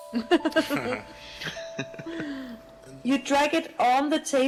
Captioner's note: hahaha, hahaha…